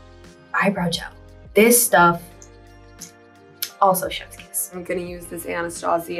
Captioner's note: blows kiss